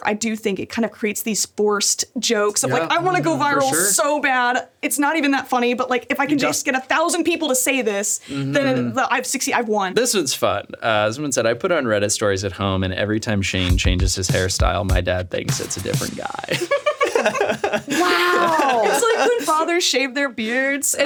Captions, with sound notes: I do think it kinda creates these forced jokes of like, "I wanna go viral so bad. It's not even that funny, but like, if I can just get a thousand people to say this, then I have 60, I've won." - This one's fun. Someone said, "I put on Reddit stories at home, and every time Shayne changes his hairstyle, my dad thinks it's a different guy." (laughs) - Wow. - It's like when fathers shaved their beards